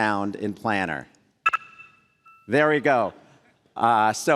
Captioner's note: computer dings